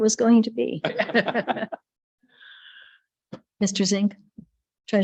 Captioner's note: light laughter